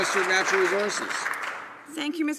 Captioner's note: some Applause